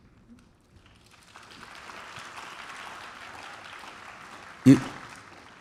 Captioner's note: applause